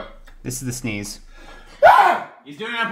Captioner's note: sneezes